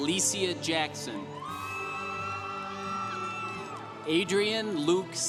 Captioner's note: congregation applauding